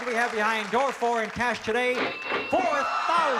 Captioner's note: ka-ching